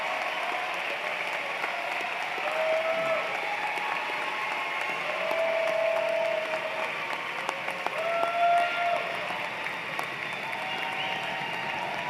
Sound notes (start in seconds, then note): 0.0 cheers and Applause